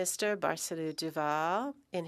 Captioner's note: speaking French